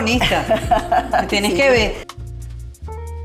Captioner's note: laugh